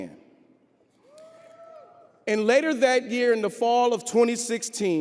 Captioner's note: audience cheering